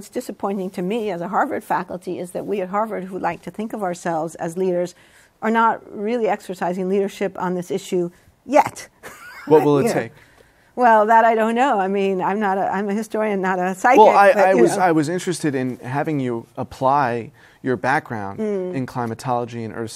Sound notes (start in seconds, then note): 9.1 laughs